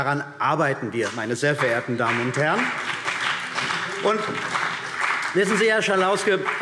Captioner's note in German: Beifall CDU und BÜNDNIS 90/DIE GRÜNEN